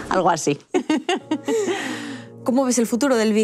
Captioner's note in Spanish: Risas